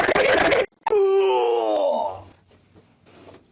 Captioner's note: pained groan